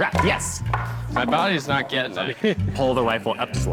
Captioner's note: wood thudding